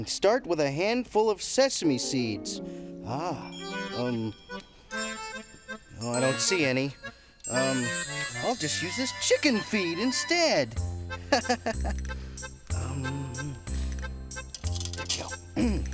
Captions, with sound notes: Start with a handful of sesame seeds. (mischievous music) I don't see any. I'll just use this chicken feed instead. (laughing)